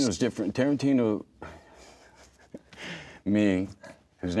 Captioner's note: laughs